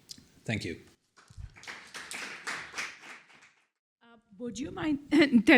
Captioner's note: applause